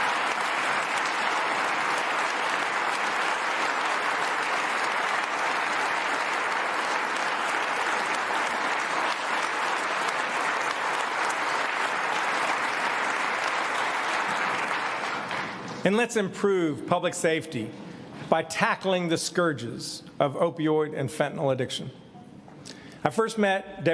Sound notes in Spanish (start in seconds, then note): 6.0 aplausos